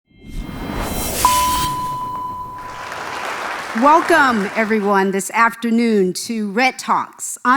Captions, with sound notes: (dramatic music) (audience applauding) - Welcome everyone this afternoon to Red Talks.